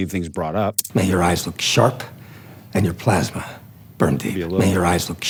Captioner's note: movie dialogue plays